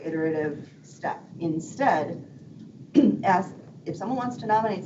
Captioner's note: clears throat